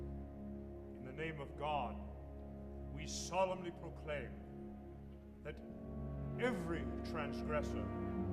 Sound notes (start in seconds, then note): 0.7 speaking in hebrew